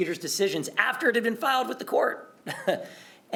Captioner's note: laughter